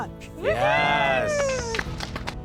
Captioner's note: applauding